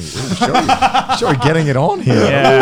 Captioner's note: laughing